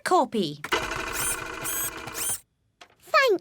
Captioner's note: printer whirring